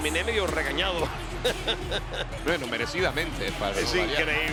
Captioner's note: laugh